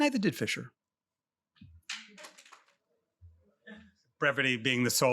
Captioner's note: applause